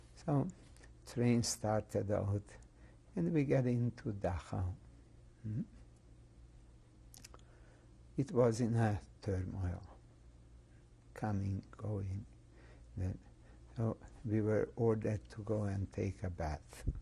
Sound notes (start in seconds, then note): 5.4 pauses for 3 seconds